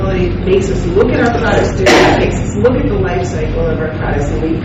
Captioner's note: coughing drowns out speaker